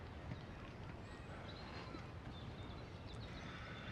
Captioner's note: birds chirping